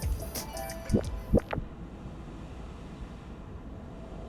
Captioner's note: jazzy music fades; digital warble